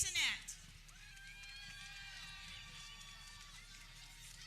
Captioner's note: people cheering